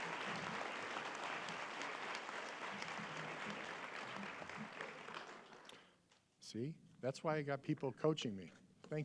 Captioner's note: applause